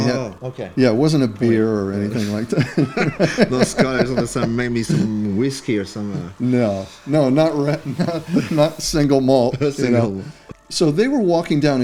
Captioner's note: laughter